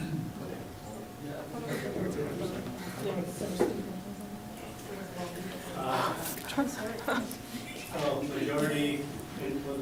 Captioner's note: talking amongst audience